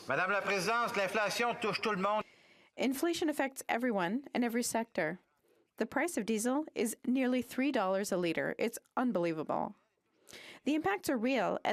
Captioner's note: speaking French